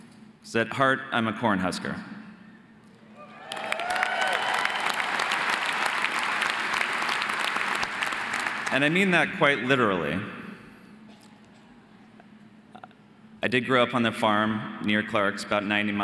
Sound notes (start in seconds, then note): 3.2 audience cheering